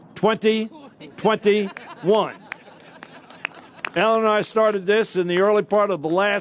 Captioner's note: laughter